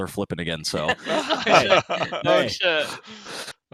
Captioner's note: laughs